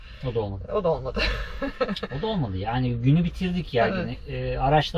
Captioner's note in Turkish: kahkaha